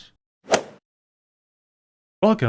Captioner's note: swoosh